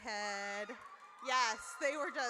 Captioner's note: audience cheers